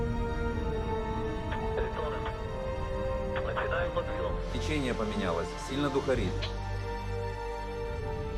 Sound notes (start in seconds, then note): 1.8 man speaking in foreign language